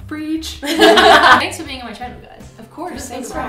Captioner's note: laughing